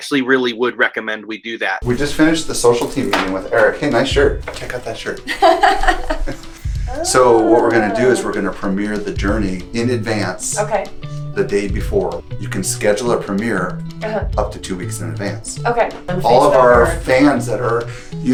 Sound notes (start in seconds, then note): 5.1 laughs